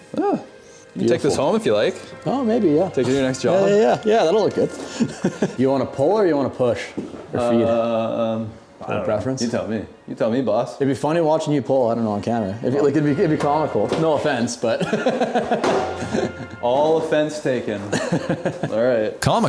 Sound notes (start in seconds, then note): 5.3 laughing; 15.8 laughs